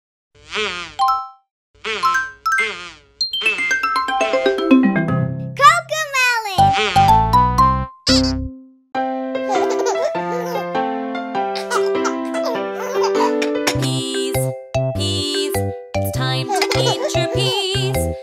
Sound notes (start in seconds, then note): 9.2 giggles; 9.2 playful music